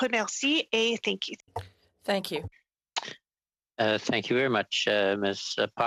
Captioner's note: speaking French